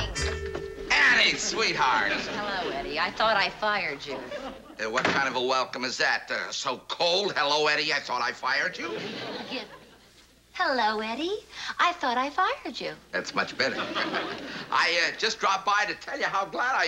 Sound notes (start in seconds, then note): 8.7 in brighter tone; 13.4 laughter